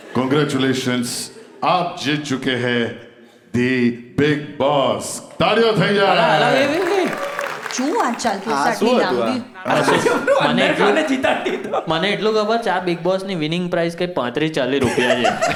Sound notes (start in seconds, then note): 5.8 crowd applauding